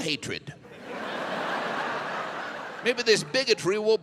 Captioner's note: audience laughs